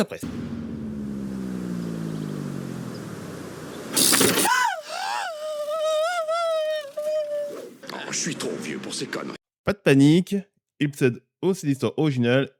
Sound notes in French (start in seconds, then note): 4.0 Bruit de vélo; 4.0 Gémissement